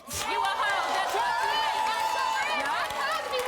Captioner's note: applause